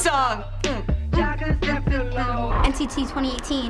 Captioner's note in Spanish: tarareando